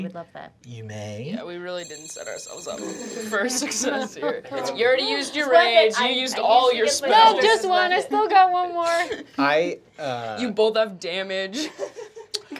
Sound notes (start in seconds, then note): 2.7 laughing